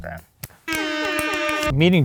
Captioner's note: air horn sound